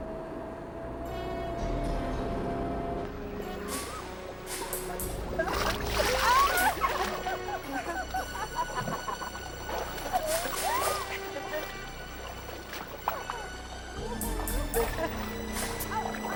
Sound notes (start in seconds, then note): 1.2 ominous music; 5.6 girl yelping; 5.6 water splashing; 7.7 girls giggling; 13.4 ominous music